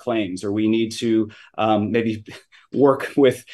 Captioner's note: chuckles